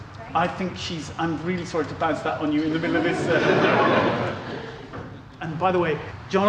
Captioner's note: laughter